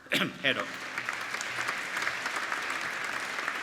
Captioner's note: applauding